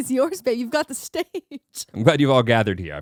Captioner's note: laughing